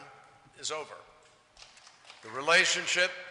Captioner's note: applause